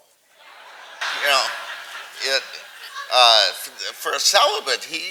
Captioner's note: audience laughing